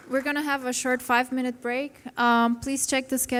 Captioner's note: applause